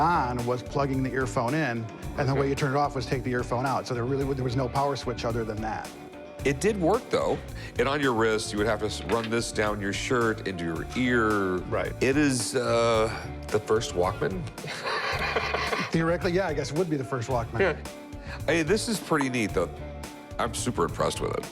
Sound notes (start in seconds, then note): 14.6 chuckles